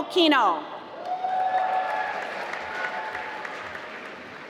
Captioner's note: applause